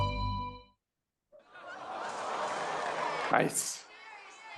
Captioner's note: crowd noise